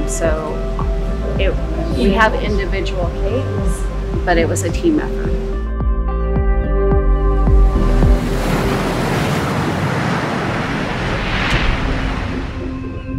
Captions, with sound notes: So it, we have individual cakes, but it was a team effort. (water splashing)